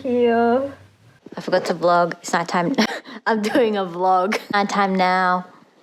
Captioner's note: laughs